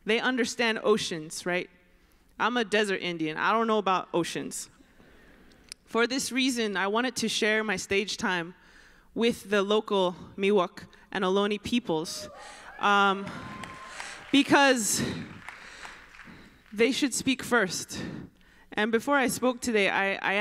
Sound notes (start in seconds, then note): 12.2 applause